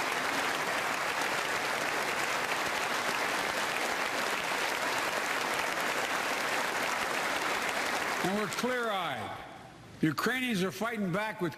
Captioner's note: applause